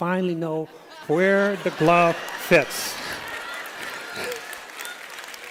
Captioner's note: laughter